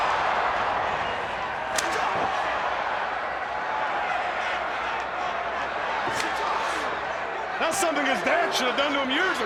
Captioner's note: crowd cheering